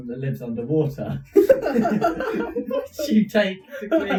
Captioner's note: laughing